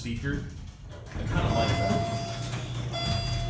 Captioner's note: elevator Chimes